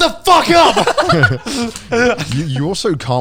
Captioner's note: everyone laughs